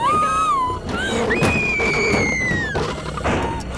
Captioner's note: Screams